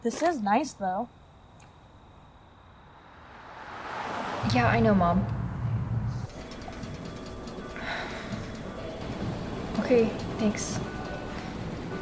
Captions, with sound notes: this is nice though... *car speeds by* yeah i know mom okay, thanks